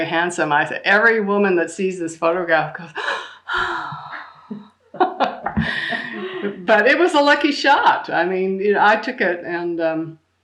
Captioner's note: big sigh